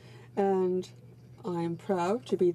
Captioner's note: speaking French